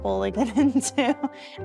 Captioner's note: giggling